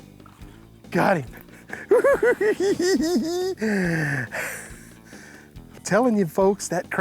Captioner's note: gasping; laughing